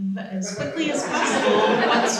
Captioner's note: laughter